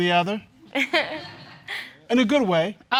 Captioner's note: audience chuckles